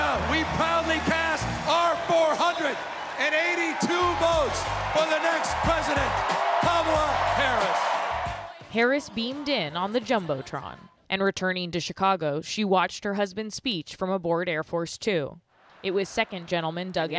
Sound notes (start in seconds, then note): 8.6 applause; 8.6 cheering